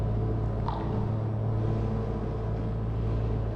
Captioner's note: dripping liquid